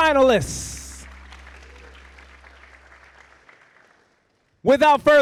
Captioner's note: audience applauding